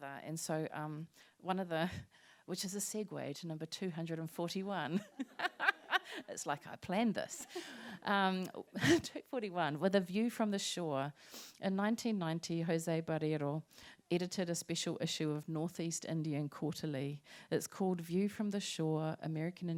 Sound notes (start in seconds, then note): 4.9 laughter